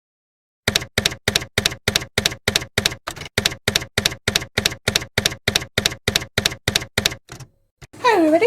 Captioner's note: typewriter keys clacking